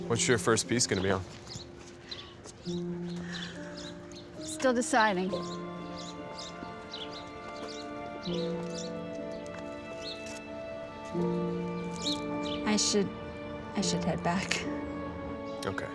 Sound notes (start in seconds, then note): 6.0 birds chirping; 8.6 soft dramatic music